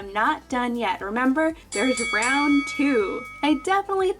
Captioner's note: bell dinging